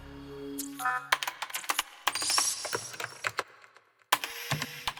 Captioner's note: keyboard clacking